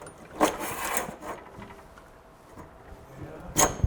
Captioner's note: metal scraping